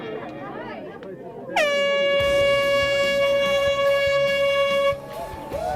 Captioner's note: crowd Noise; air Horn; cheering